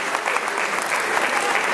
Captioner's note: applause